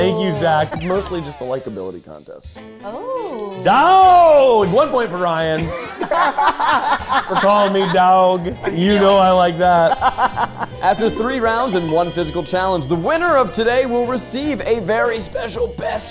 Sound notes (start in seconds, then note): 5.5 group laughing; 9.8 laughing